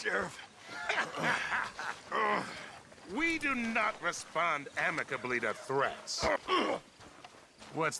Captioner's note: laughs